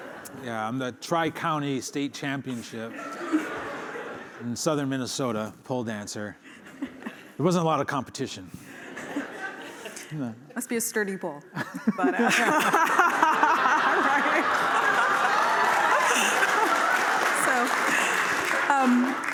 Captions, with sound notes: - Yeah, I'm the tri-county state championship in Southern Minnesota pole dancer. There wasn't a lot of competition. [laughter] - Must be a sturdy pole. [laughter] Right? [cheering, applause]